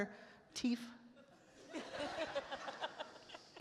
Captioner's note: attendees laugh